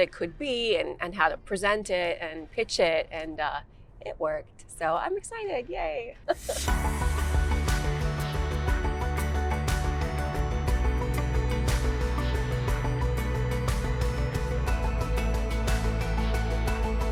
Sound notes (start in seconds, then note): 6.2 Georgia chuckles; 7.9 upbeat music